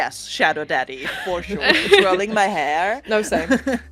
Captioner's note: laughter